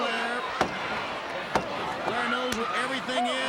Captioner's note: countdown thudding